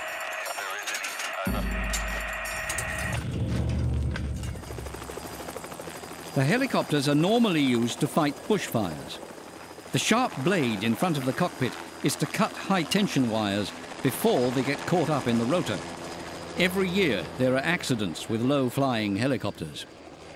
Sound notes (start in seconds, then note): 4.7 blades whirring